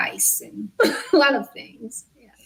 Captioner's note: laughs